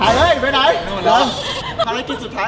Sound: laughs

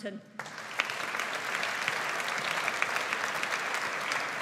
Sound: audience applauds

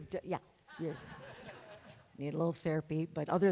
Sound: everyone laughs

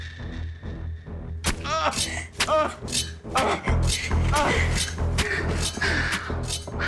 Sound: tense sinister music; man grunting

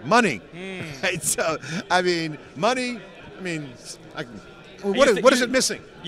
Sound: laughs

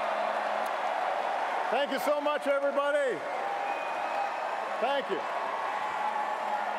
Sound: applause

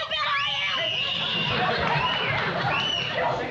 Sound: screaming

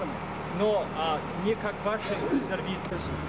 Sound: russian speech

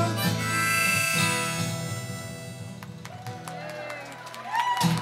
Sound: applause

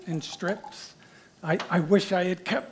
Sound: water poring into a glass

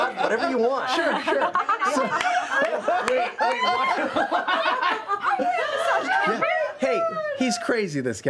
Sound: laughter

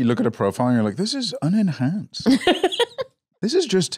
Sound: laughs

